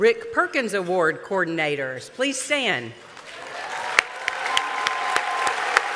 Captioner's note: applause